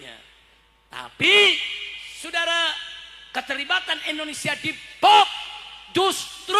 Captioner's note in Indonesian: berteriak